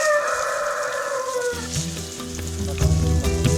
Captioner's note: sound of rooster crowing